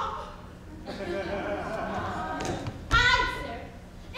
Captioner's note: audience laughs